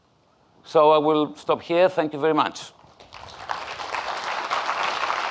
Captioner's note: audience applauding